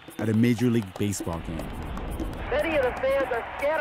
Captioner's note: soundbite of archived recording